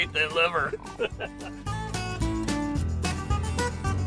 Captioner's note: laughing